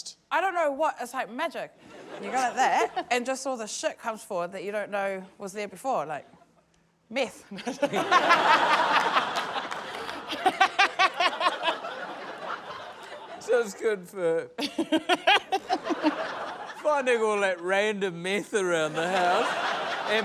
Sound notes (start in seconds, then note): 7.5 laughter; 7.6 guffaws; 14.6 laughs